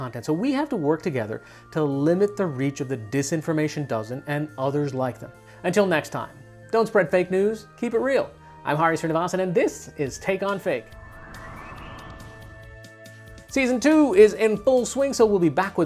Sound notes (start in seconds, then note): 10.2 upbeat instrumental music; 10.6 image whooshing